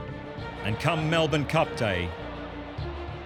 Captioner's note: crowd clamoring